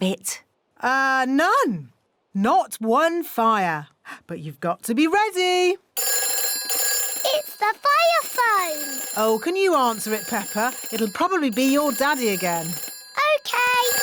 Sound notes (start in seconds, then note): 6.0 phone rings